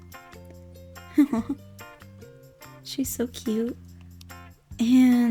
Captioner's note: giggles